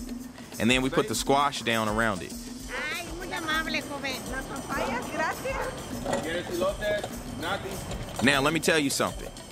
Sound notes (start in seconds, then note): 4.7 two women speak Spanish; 8.0 speaks Spanish